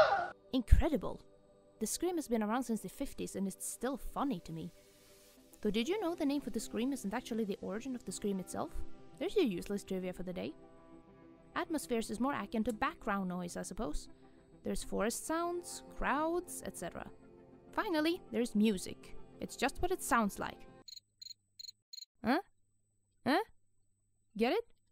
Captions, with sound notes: Incredible! This scream has been around since the 50’s and it’s still funny to me. Though did you know the name of the scream isn’t actually the origin of the scream itself? There’s your useless trivia for the day! Atmospheres is more akin to background noise, I suppose. There’s forest sounds, crowds etc. Finally, there’s Music. It’s just what it SOUNDS like. *Crickets chirping* … Eh? Eh? Get it?